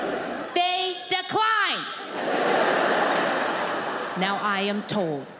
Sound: audience laughs

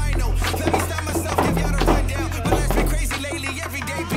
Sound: defiant music; bag jostling

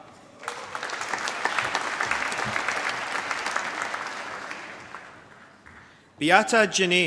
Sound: applause

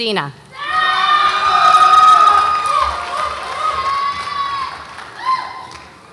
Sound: audience applauds and cheers

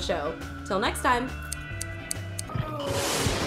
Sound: snip, Snip, Snip

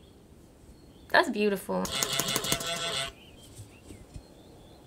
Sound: honking

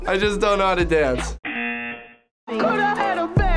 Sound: buzzer

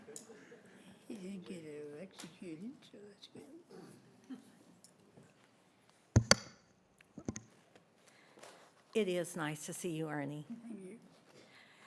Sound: laughter

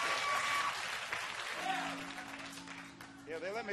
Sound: audience cheering

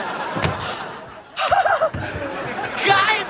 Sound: laughing

